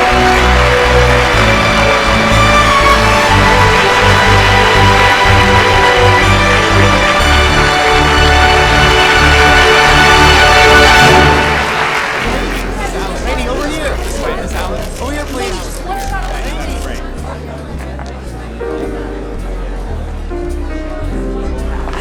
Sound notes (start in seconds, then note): 14.6 camera shutters clicking; 18.6 jazz music playing